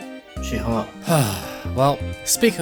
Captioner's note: sigh